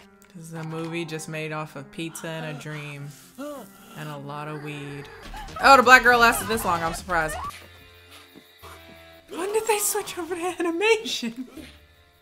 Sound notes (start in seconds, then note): 5.0 tense music; 8.2 girl screaming